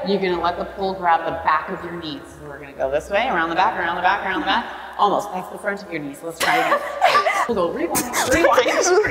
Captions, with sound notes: You're gonna let the pole grab the back of your knees. So we're gonna go this way around the back, around the back, around the back, almost, that's the front of your knees, let's try again. (both laughing) We'll go rewind, rewind, rewind.